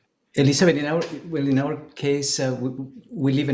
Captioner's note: speaking a foreign language